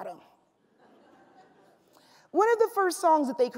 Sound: laughs

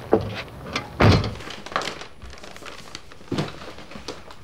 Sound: thudding sound

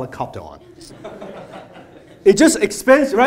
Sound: laughter

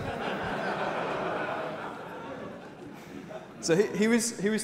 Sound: laughter from audience

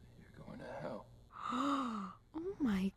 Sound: gasp

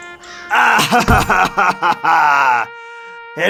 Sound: crying

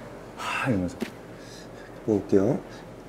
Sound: fire breath

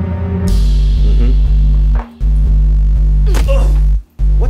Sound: grunts

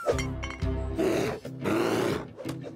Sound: growling

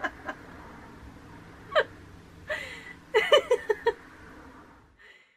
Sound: laughing

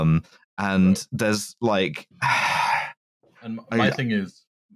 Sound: sighs

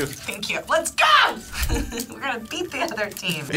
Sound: chuckles

